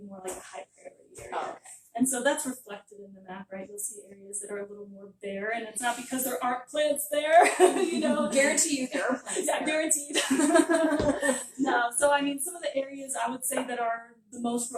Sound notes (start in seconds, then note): 7.3 giggling; 10.1 laughter